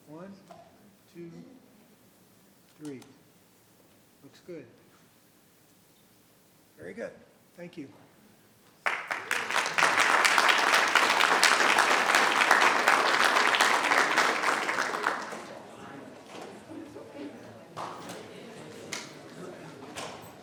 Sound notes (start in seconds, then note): 8.8 audience applauding